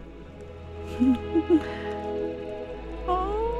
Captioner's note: chuckle